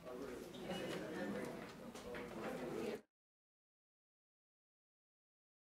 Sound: attendees chattering

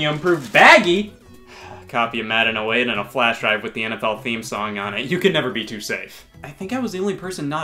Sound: sigh of relief

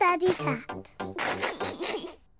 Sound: snickers

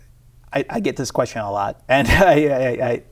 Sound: laughs

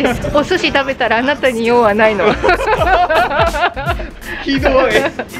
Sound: laughs

